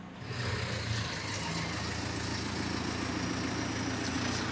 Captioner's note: vehicle rumbling